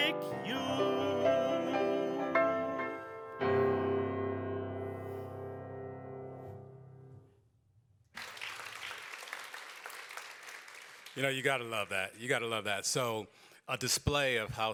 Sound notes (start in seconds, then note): 8.1 applause